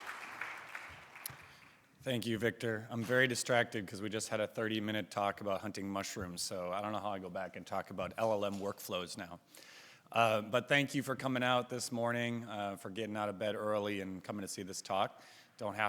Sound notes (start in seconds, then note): 0.0 audience clapping